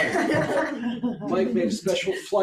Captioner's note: audience laughs